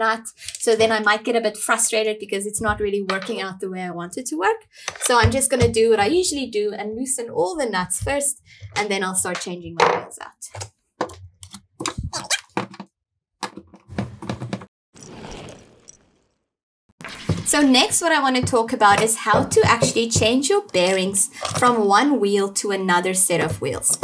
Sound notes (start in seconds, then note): 11.1 sped up audio of wheel changing; 15.0 roller skates passing